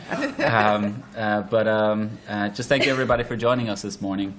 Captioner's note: laughter